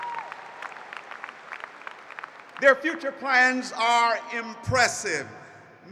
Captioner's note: applause